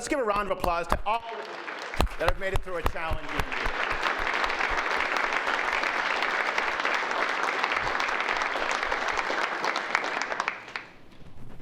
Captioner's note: applause